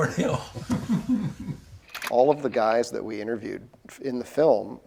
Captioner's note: laughs